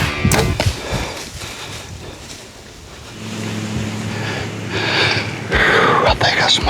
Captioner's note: deer running; arrow flying; heavy breathing